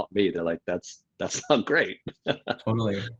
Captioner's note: laughs